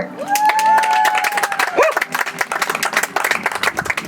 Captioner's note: audience applauds